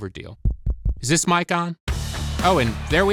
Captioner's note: tapping on microphone